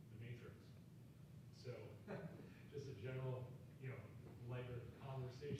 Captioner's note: chuckles